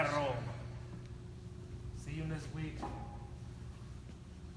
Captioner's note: speaking foreign language